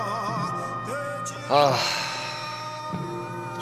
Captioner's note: sigh